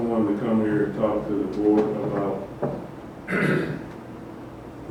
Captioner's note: clears throat